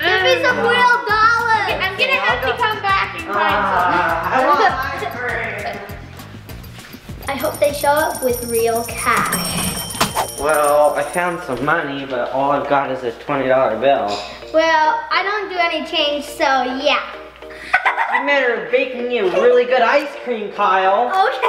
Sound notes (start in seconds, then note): 17.5 giggling